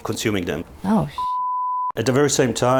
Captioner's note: beep